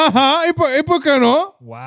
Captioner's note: speaking In Foreign Language